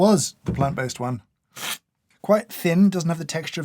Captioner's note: slurp